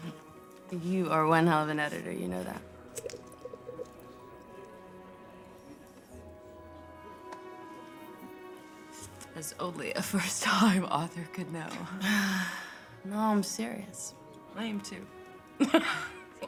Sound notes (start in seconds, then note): 11.8 sighs; 15.6 laughing